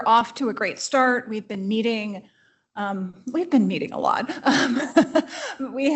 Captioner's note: laughs